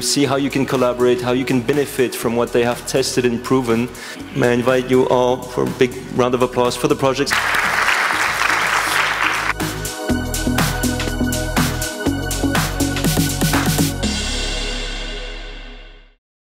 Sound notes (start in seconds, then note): 7.3 applause